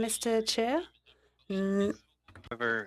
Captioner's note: speaking in French